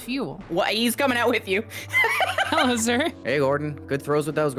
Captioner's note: laughs